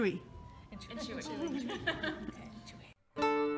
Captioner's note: laughter